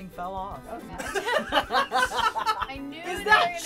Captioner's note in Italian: risata